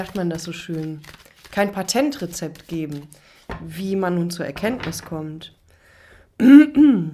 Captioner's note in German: räuspern